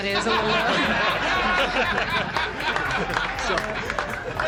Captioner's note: audience laughs